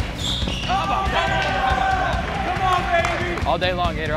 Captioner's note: people shout